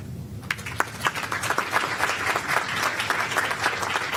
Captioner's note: applause